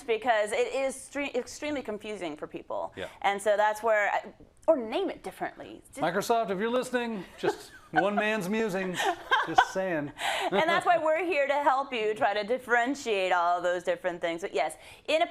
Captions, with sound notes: because it is extremely confusing for people. -Yeah. -And so that's where, or name it differently. -Microsoft, if you're listening. Just one man's musings, just saying. [LAUGH] -[LAUGH] And that's why we're to help you try to differentiate all of those different things.